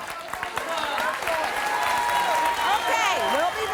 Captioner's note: audience applauding and cheering